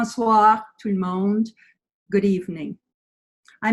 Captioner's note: speaking French